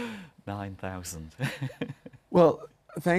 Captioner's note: laughter